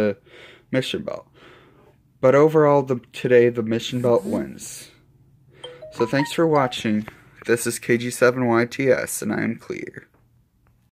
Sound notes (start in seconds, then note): 5.6 phone notification chime and vibration in the background